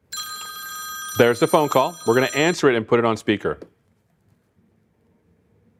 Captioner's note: phone ringing